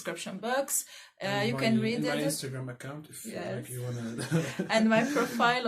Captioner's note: stupid giggle